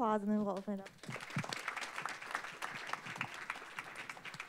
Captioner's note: applause